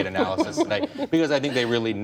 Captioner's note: laughter